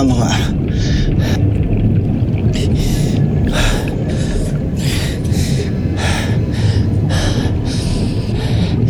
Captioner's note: water gurgling; mystical music playing